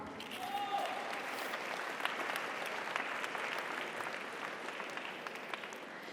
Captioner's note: audience cheers; audience applauds